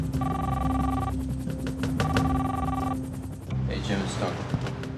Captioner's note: phone ringing